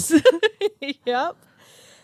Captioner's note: both laugh